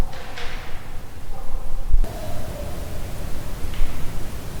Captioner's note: wood knocking